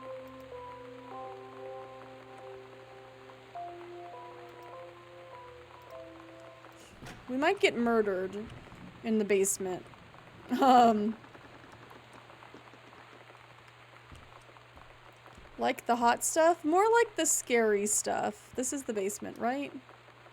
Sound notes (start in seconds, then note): 10.5 laughs